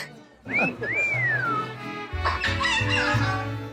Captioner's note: bird wolf-whistles; squawking